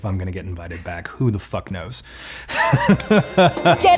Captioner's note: laughs